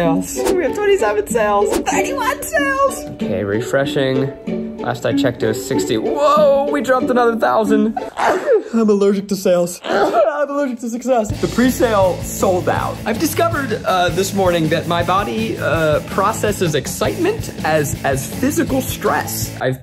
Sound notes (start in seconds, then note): 8.2 sneezes